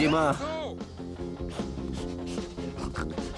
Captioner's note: sniffing